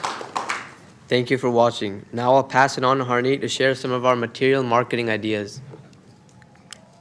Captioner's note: applause